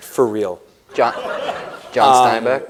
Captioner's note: laughter